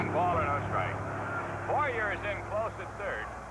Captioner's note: male announcer over radio